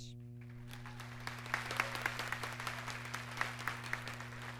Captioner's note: audience clapping